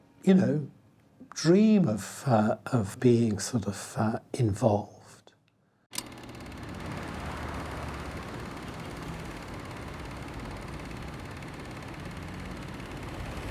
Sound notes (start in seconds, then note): 5.9 projector whirs